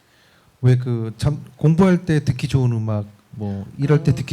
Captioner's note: speaking korean